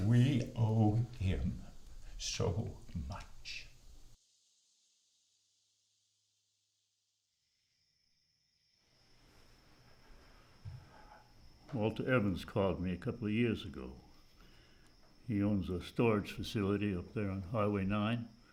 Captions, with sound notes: - We owe him so much. (crickets chirping) - Walter Evans called me a couple of years ago. He owns a storage facility up there on Highway 9.